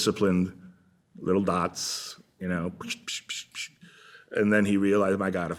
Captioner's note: sound effects